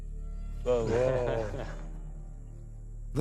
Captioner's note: chuckles